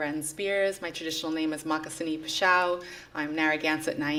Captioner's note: non-english speech